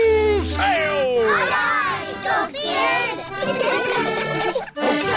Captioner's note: giggling